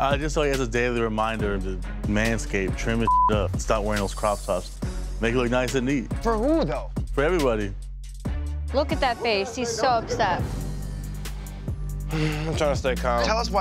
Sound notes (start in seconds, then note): 3.0 beep